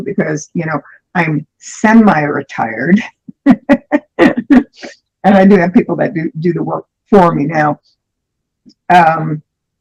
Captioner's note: laughter